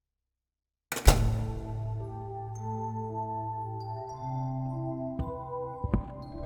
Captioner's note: door closes; uneasy music